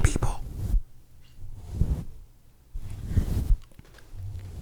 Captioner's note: gentle brushing